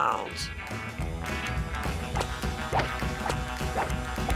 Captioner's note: whacking